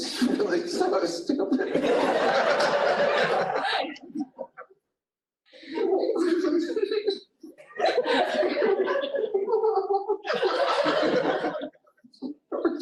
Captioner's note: laughter